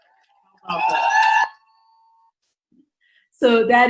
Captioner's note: cheers